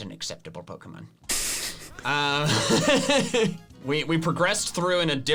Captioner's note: both laughing